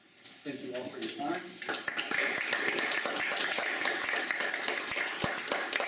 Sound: applause

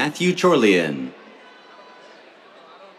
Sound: cheers

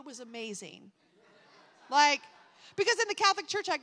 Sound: attendees laughing

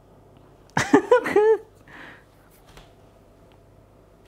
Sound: giggling

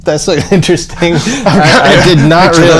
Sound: laughter

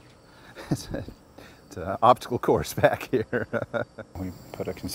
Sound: laughs

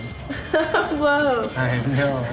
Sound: laughs

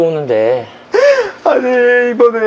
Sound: sobbing!

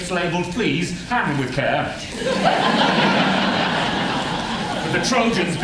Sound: laughter

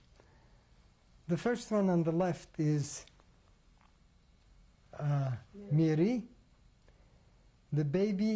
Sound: pauses for 3 seconds

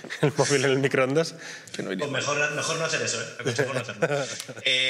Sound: laughs

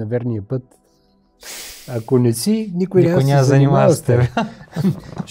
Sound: joyful laughter

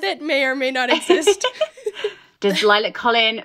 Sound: laughing

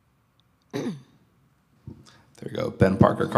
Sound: clears throat

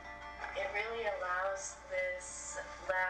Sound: guitar music; voiceover

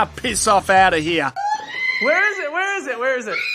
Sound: woman screaming; woman screams louder

